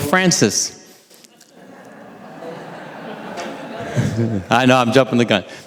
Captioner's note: audience laughing